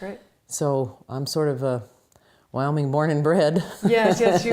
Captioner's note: laughs